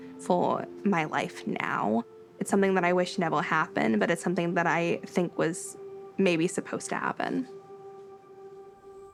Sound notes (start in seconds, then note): 3.5 birds chirping